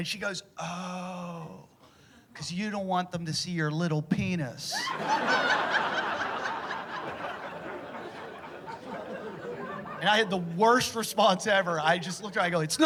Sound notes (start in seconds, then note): 6.3 laughter